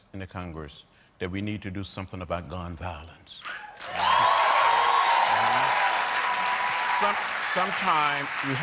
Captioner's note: cheers and applause